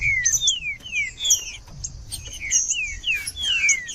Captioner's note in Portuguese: trinca ferro cantando